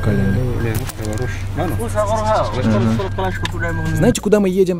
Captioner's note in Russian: говорят на сомалийском